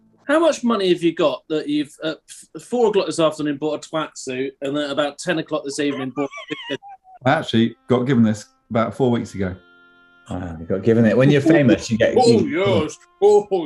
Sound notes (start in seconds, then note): 5.8 sniggering; 12.8 chortling